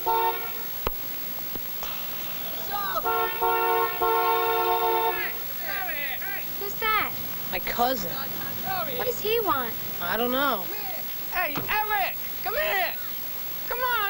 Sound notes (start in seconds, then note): 0.1 horn honking; 3.0 guys in car yelling